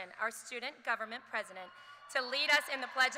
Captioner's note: cheers